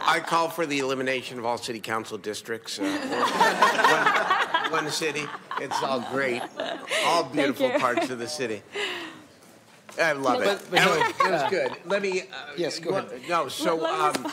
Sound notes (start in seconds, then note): 9.2 laughter; 10.7 laughter